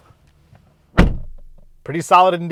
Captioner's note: door slams